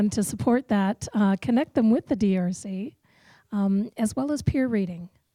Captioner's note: voiceover